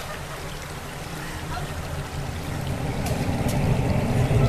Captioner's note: Kate whimpering